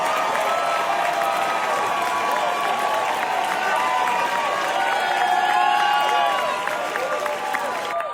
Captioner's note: cheers